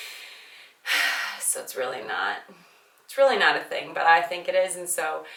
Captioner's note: sighing